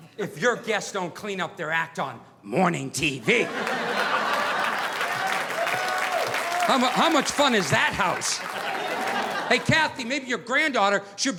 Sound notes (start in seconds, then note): 3.2 audience laughing; 3.4 audience applauding